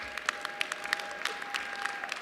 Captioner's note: applause